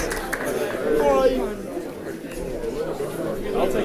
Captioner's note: crowd chatting